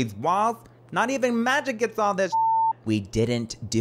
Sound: beep

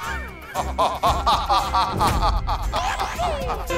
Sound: laughing

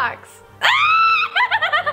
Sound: screaming; laughing

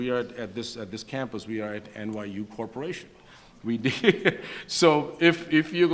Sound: laughs

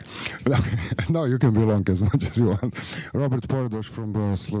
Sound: laughter

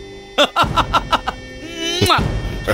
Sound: laughs

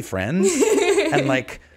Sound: laughing

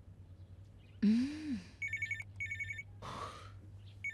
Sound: phone ringing

